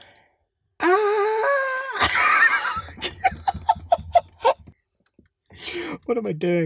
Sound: laughs

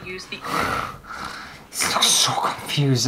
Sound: desperate Gasps

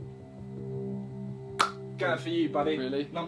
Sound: tense music; hands slapping

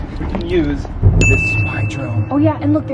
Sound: ding

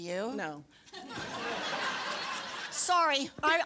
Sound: laughter

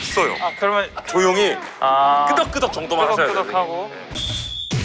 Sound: whimpers

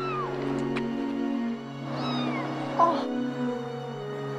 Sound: kitten meowing

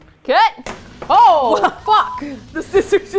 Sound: drumroll; laughs; beep

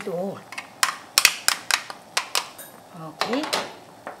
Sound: utensils tapping

